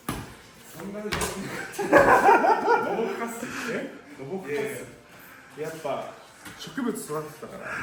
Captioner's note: laugh